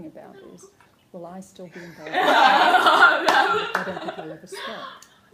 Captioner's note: laughter